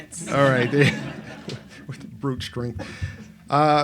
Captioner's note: laughs